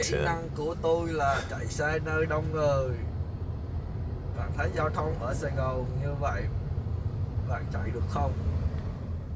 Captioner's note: in vietnamese